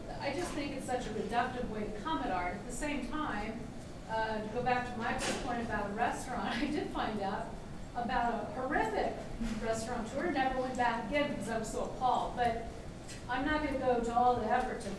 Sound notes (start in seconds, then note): none